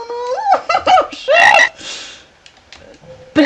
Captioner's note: nervous laughter